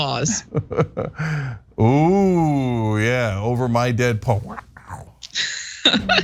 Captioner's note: laugh